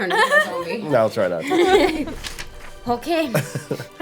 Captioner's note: laughing